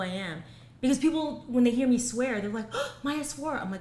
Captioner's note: gasps